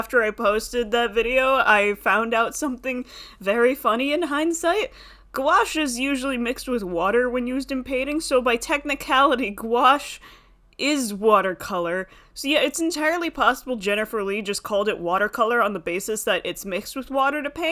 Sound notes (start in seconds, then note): none